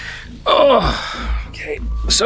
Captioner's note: grunting